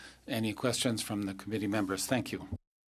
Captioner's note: speaking French